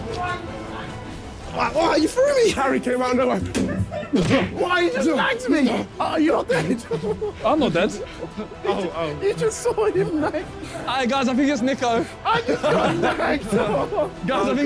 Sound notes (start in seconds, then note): 4.0 stabbing noise